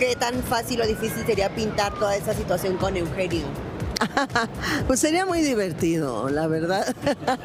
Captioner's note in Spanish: risas